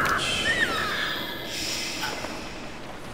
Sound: squeals

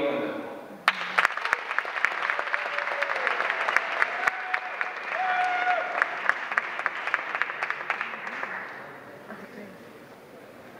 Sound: applause

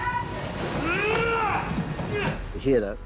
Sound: grunts

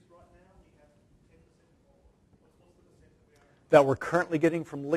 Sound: speaking off microphone

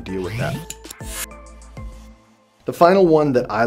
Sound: zapping

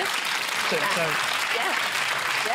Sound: applause

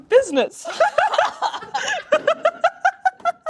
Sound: laughter

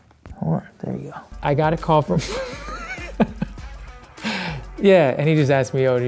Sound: laughs

